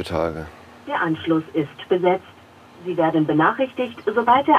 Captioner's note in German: Telefonstimme